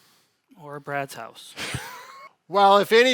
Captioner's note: laughs